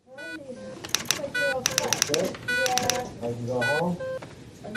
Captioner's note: typwriter typing